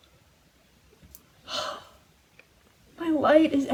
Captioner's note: sigh